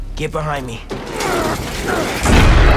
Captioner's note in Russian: Борьба